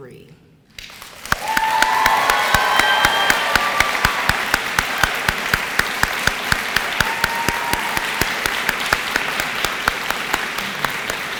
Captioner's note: applause